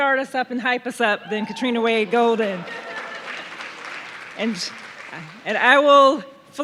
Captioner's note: audience cheering